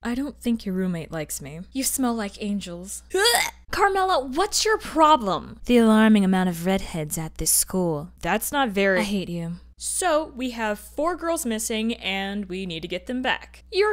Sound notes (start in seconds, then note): 3.1 Carmilla gags